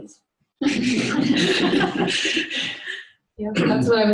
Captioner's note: laughter